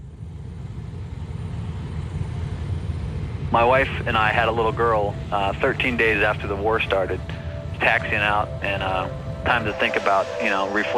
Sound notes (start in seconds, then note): 1.9 plane passing